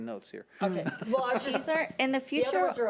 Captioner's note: laughing